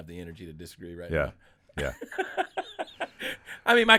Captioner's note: laughing